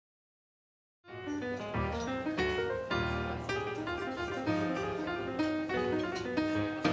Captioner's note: restaurant chatter